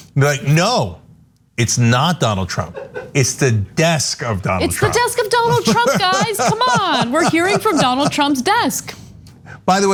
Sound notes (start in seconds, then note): 2.7 laugh; 5.2 laugh